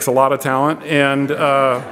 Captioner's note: audience laughs